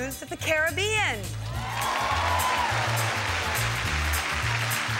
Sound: audience cheering

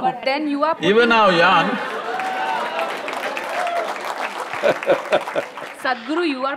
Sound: cheers/Applause; laughs

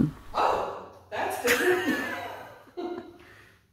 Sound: laughter

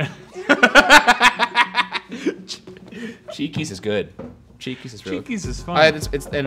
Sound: laughs

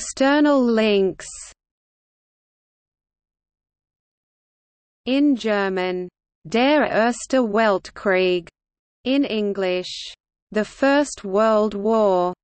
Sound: in German

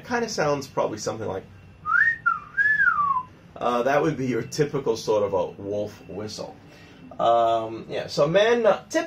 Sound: wolf whistle sound'

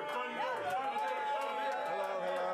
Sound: audience cheering

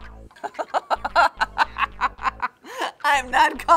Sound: mocking laughter

